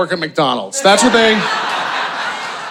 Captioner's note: audience laughing